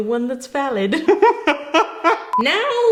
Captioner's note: laughing maniacally